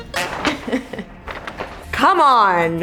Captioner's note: paper rustling; laughs